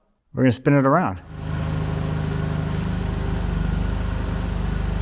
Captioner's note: engine roaring